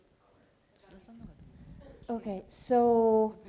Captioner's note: speaking japanese; speaking japanese